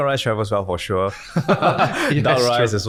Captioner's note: laughing